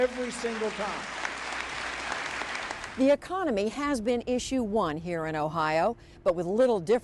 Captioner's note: applause